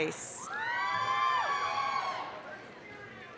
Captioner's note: applause, cheering